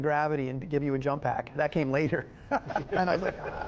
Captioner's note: laughing